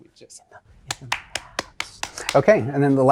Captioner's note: applauds